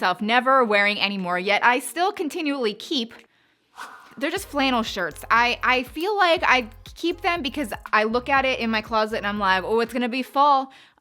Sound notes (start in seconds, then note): 3.7 swishing